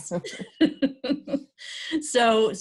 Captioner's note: chuckling